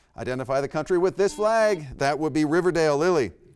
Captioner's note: buzzer beeps